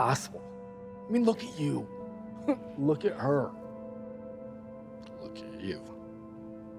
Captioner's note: laughs